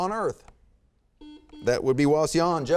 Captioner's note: buzzer beeps